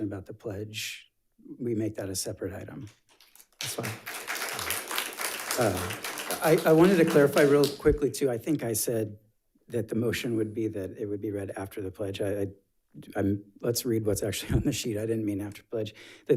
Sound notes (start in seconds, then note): 3.1 audience applauds